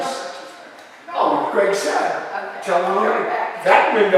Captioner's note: parents conversing